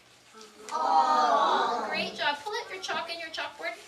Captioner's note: children saying ah sound